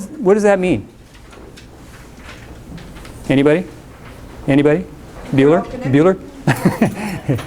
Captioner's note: laughs